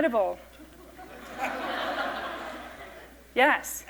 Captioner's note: laughter